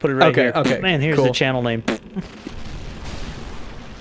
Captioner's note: fart sound